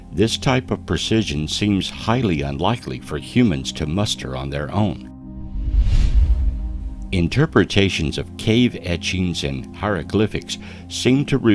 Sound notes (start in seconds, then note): 5.3 air whooshing